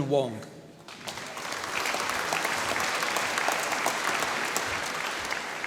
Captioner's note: applause